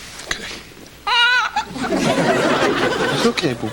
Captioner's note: cries